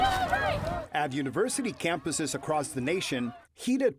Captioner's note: voice-over